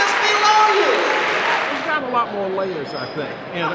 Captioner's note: audience applause